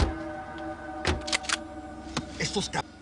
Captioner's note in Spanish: Portazos